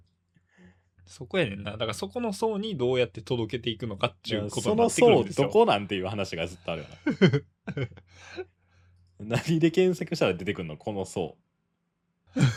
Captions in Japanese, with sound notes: そこやねんな。だからそこの層にどうやって届けていくのかっちゅうことになって。 その層どこなんていう話がずっとあるよな。 [笑い] 何で検索したら出てくんの?この層。俺らがさ、何者か分かってないねんからさ。